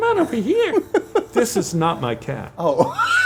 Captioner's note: laughs